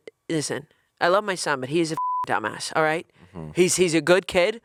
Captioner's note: beep